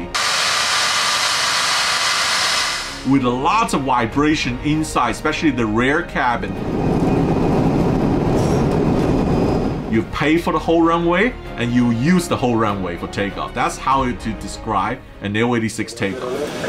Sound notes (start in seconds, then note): 0.0 air plane engine roaring; 6.4 aeroplane cabin roaring